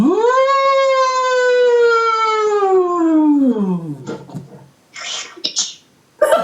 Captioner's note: loud howl noise, high pitch and falling down the scale; group laughter